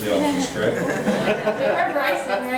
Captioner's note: laughing